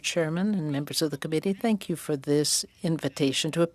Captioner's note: speaking French